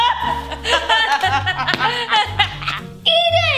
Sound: both laugh

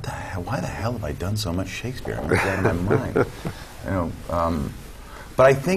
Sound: laugh

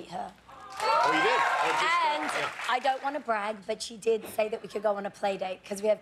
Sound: cheers and applause

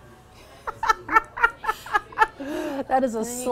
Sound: laughs

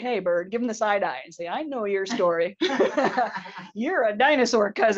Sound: laughs

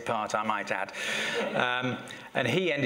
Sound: laughter

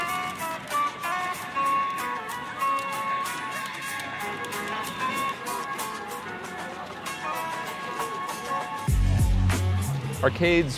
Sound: sounds of various arcade games. play Vampire Savior

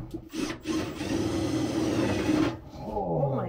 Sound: drill whirring

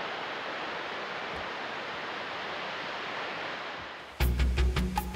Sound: water falls

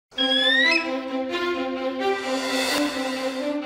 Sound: eagle screeches

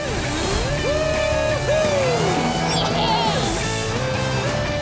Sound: cheering

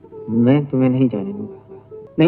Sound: none

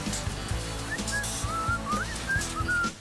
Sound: whistling

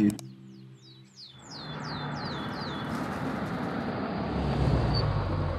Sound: birds chirping

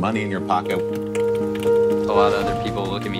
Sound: keyboard clacking

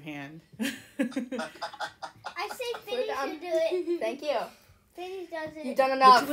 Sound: laughter

